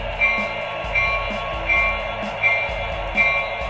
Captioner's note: train bell ringing